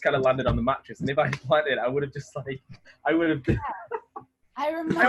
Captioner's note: laughing